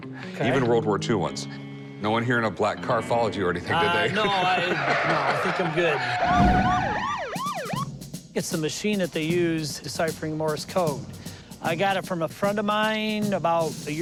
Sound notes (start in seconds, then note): 6.1 police siren